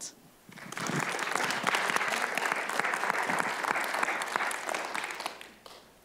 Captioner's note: audience applauding